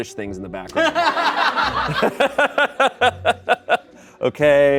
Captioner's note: crowd laughs